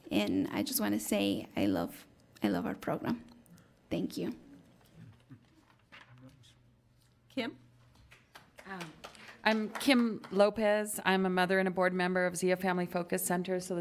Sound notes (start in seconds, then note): 8.0 applause